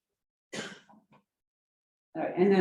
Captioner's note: coughs